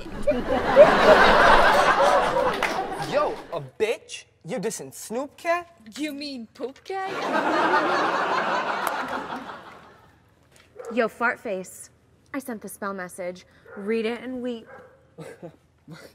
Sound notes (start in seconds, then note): 0.0 audience laughs; 7.1 audience laughs